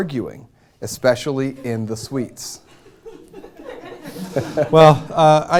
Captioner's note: laughter